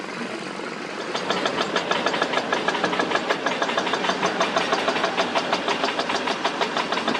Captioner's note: excavator Rumble